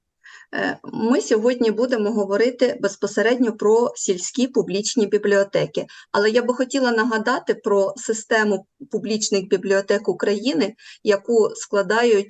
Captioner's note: foreign Language